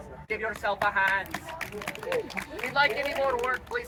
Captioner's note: applause